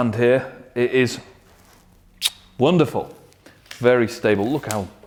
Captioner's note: kissing